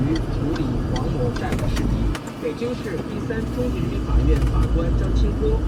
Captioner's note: broadcast Voice